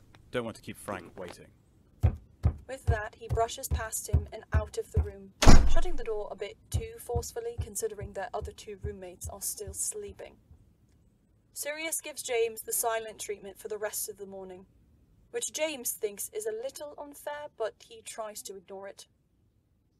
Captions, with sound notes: “don’t want to keep Frank waiting.” With that he brushes past him and out of the room, [forceful footsteps] [Door slams] shutting the door a bit too forcefully considering their other two roommates are still sleeping. Sirius gives James the silent treatment for the rest of the morning, which James thinks is a little unfair but he tries to ignore it.